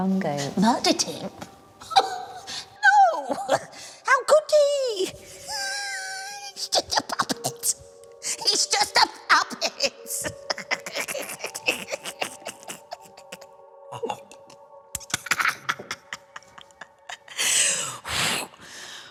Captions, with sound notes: Murdered him? No! [laughs] How could he?! [laughs harder] He's just a puppet! [laughing] He's just a puppet!